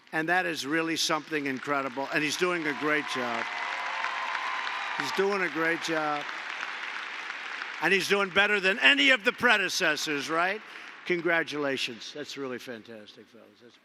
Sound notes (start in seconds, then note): 4.0 applause